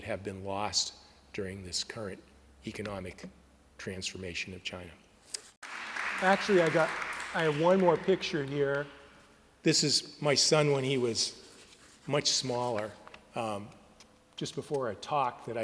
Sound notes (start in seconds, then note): 5.6 applause